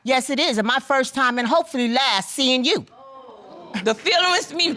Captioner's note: audience exclaims